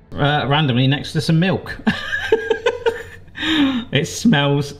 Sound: laughs

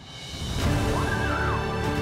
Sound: screams

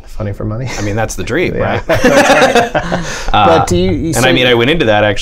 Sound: laughter

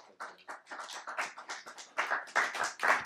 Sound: applause

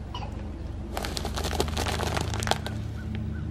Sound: crunching noodles

